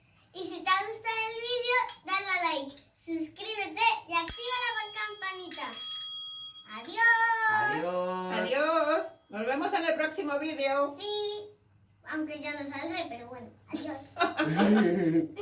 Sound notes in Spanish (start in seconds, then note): 7.1 rings